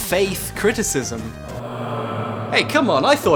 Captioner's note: all groaning